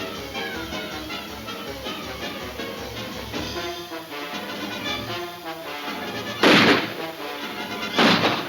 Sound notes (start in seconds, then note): 6.2 guns firing